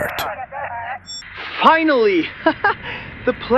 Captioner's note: laughs